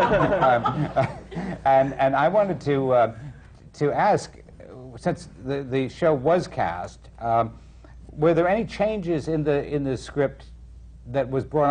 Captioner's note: laughter